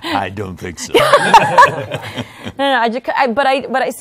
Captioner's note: laughter